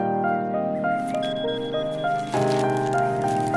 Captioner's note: Notification sound